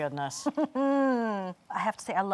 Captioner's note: laughing